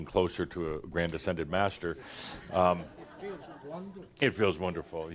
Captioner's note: a few chuckles